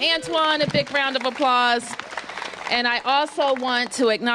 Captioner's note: applause